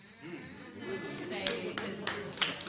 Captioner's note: spectators murmur